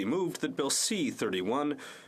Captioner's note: speaking French